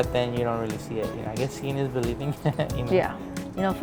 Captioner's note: chuckling